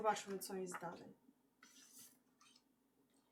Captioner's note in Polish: szelest kartki